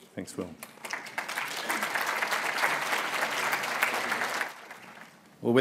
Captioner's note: applause